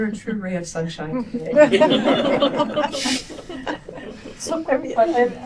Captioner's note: laughter